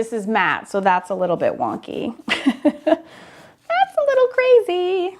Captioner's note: laughs